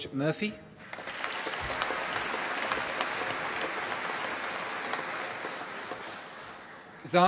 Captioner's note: applause